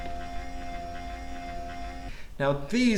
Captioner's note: slow whirring